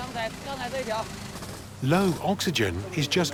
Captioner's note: speaking Tibetan